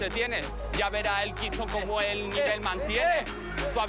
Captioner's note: shouts; shouts